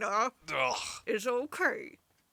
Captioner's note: makes disgusted sound